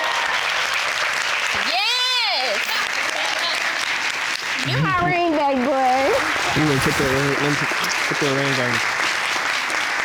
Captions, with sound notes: (AUDIENCE EXCLAIM) Yes! (AUDIENCE LAUGHING) You're my ring back boy! Let me fit that ring on you.